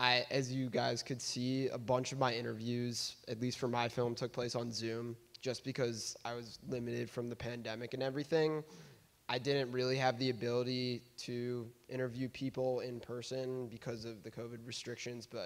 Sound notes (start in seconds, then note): none